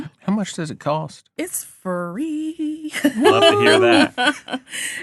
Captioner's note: laughing